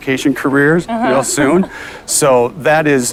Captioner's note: laughs in unison